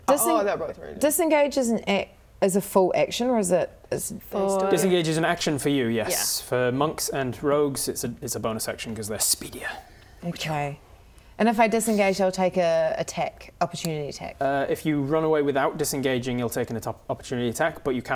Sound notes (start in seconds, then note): none